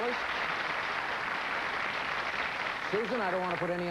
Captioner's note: applause